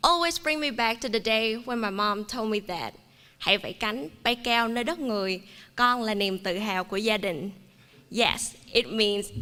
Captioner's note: non-english speech